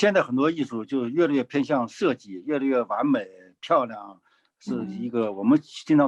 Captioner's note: speaking in foreign language